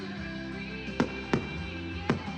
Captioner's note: firecrackers booming